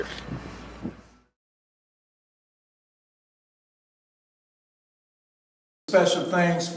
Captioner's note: silence